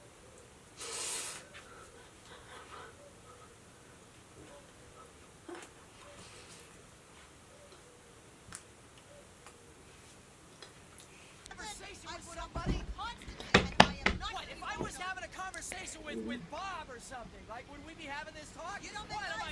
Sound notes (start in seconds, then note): 11.5 people arguing outside; 13.5 knocking